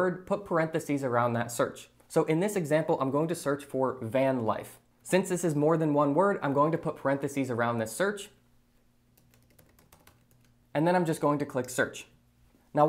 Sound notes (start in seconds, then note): 9.2 keyboard clacking